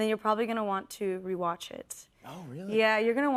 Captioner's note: none